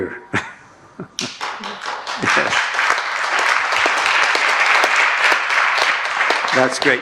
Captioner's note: clapping